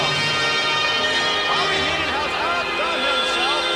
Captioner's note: crowd shouts